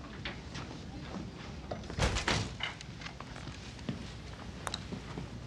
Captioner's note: door shuts